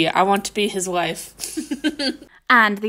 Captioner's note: laughing